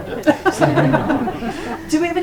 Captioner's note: laughs